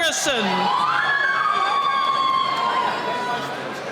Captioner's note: cheering